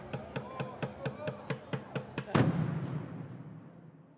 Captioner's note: people chattering